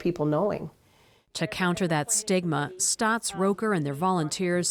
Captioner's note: voice-over